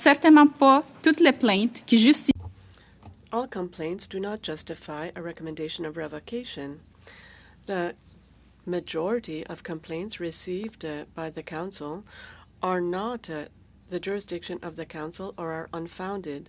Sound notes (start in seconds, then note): 7.0 speaking French